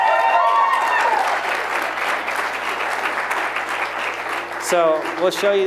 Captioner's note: applause